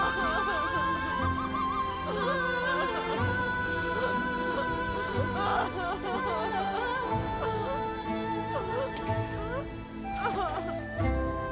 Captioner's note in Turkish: Ağlama sesleri